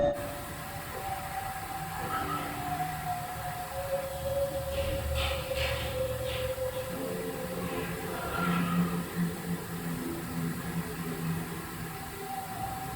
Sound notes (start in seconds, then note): 0.1 white noise shushing; 2.3 eerie music; 4.8 door slamming; 7.9 ghost laughing